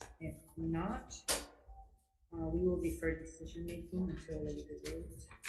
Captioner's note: none